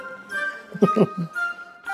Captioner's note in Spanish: ríe